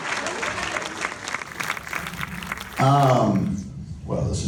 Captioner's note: audience applause